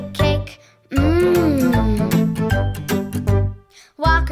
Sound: delightful moan

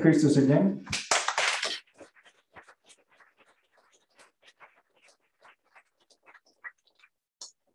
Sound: applause

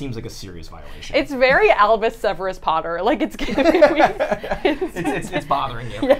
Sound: laughing

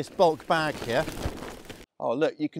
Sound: bag rustles

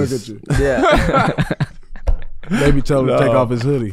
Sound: all laughing

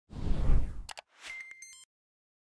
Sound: animation whooshing; animation clicks

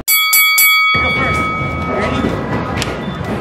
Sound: bell ringing

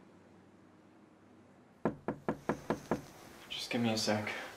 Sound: door knock

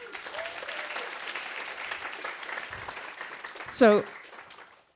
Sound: applause

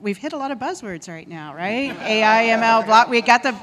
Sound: laughing

